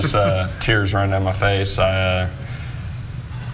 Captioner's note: laughing